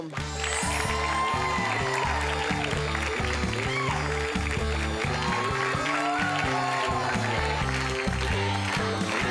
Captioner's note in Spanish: Aplausos